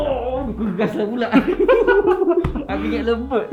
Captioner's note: laugh